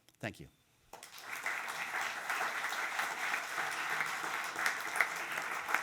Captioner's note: audience applauding